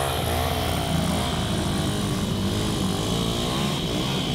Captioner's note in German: Motor-Geräusche